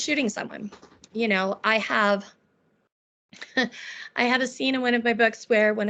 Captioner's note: chuckling